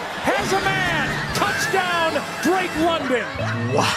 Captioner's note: wheezes in Philly choking